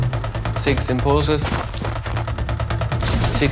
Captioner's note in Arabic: طحن ثلوج